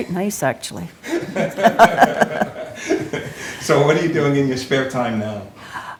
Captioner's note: laughs